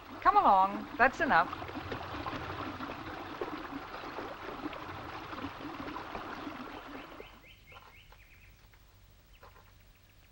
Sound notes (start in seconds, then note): 1.9 water bubbling